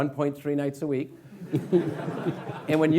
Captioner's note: laughing